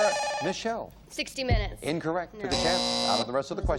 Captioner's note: beep